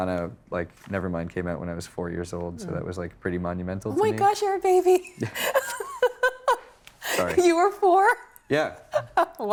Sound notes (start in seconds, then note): 5.2 laughing